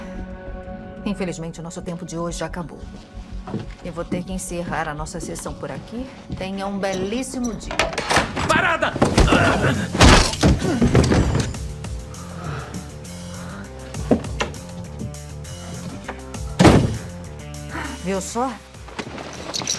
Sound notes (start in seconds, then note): 8.6 grunts, groans; 9.0 winces; 17.5 sighs